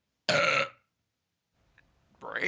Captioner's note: ungodly sound of belch